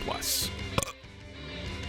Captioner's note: belch